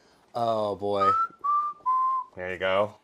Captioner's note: whistles ' '